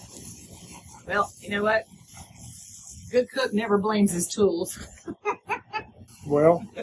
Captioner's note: laughter